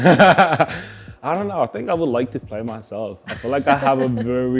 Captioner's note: laughs; laughs